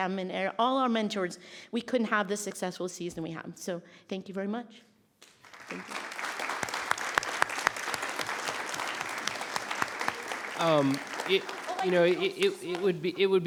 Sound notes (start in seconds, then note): 5.2 members clapping